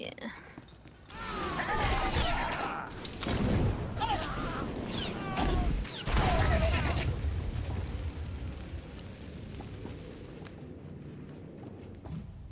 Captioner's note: gunfire